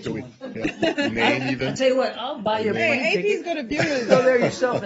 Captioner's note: laughter